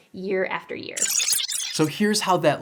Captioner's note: digital glitch